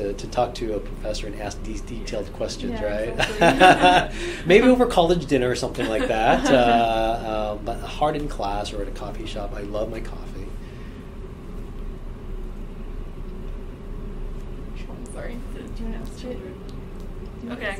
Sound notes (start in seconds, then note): 3.0 laughs; 7.6 laugh